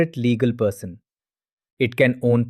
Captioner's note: pause